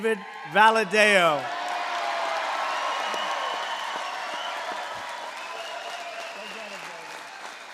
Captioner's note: applause